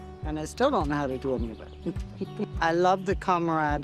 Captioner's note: chuckling